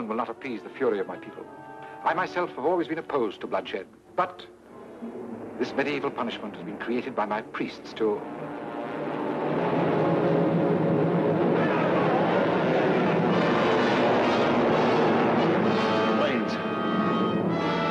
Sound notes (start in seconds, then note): 9.1 plane engines roaring; 11.2 crowd clamoring; 14.2 dramatic music